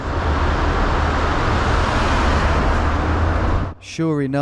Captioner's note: traffic rumbling